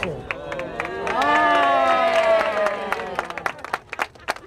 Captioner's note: cheering and applause